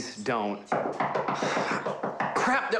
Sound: knocking

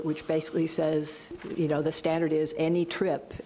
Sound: none

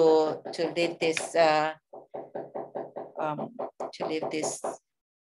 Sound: neighbor hammering

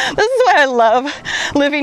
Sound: laughs

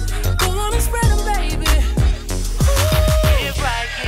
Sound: ooohh

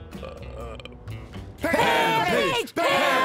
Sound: burp; chanting

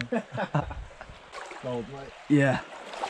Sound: laughing

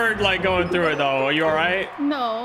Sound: crowd distantly cheering

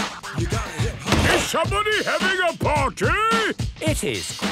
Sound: shouts

